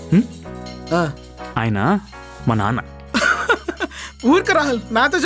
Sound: Carrot giggles

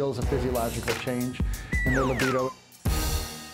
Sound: slide whistle

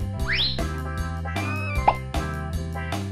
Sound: paper towel whistles; graphics popping; playful music

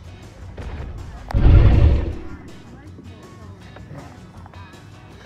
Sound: dinosaur foot stamping; dinosaur roars

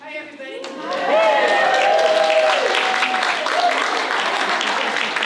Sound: audience cheers

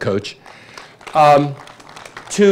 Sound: applause

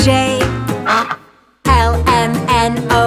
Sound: duck quacks

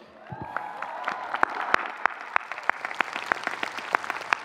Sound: audience cheering

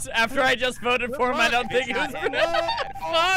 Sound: laughing

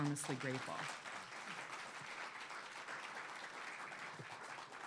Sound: audience applauding

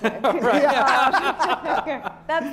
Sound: laughter

